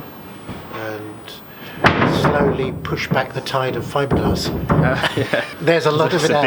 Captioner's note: laughs